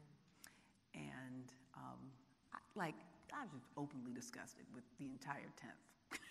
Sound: laughing

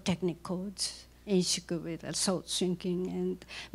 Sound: non-english speech

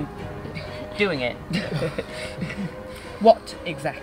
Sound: laughing

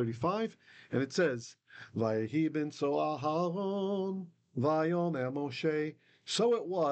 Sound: Hebrew

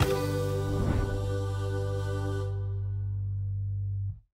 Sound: upbeat music; air whooshing

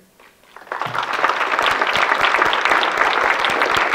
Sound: audience clapping

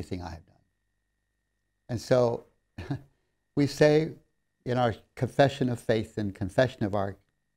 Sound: laughs

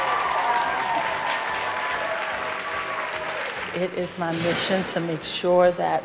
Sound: applause

